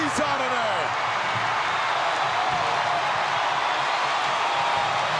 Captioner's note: audience cheering